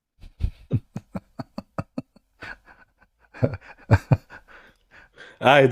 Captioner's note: Ketawa